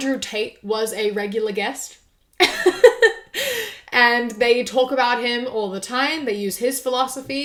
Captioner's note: laughs